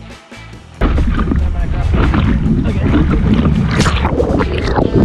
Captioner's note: water splashing